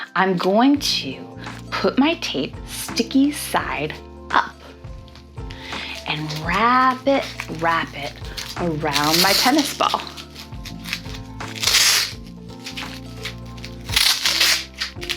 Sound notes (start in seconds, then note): 9.7 tape ripping